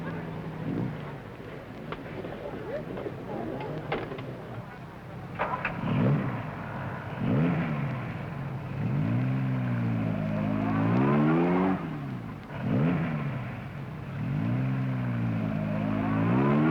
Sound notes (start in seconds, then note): 7.0 engine revving